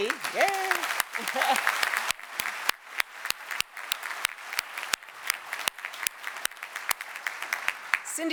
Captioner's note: applause